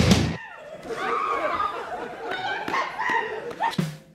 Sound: Mr. Meeseeks's scream

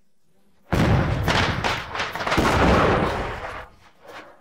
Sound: crackers bursting

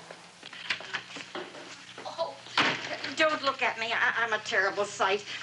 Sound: door clattering

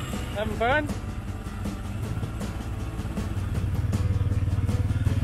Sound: none

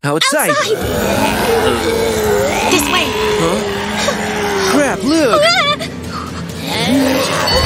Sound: hum of a big crowd of zombies; wheezing, grunting of hungry zombies; sounds of panting while running & several screams of panic

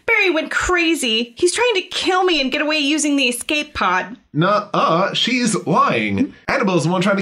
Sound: none

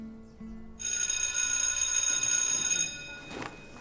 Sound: school bell rings

